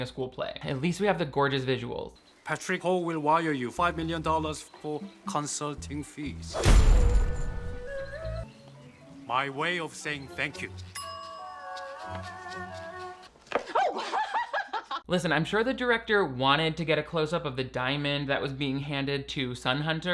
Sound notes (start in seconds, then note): 6.3 coins clinking; 6.3 slow music; 10.9 bell rings; 13.5 laughs